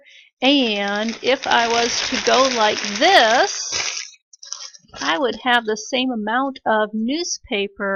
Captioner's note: crumpling sound